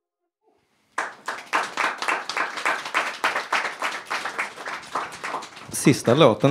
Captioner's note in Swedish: Applåder